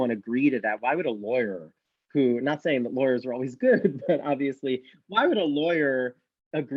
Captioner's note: laughs